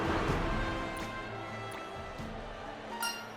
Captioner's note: drip*... *drip